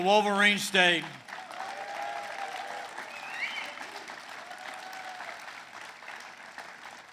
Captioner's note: applause